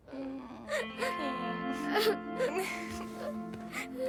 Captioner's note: crying